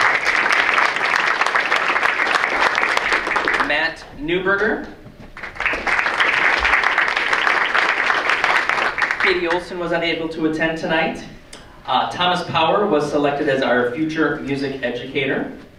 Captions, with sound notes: (audience applauds) Matt Neuberger. (audience applauds) Katie Olsen was unable to attend tonight. Thomas Power was selected as our future music educator.